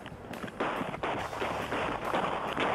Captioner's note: gunfire